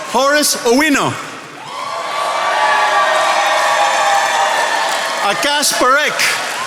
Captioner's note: attendees applauding